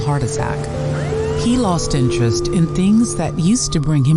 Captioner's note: siren wailing